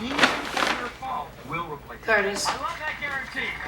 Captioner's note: TV chattering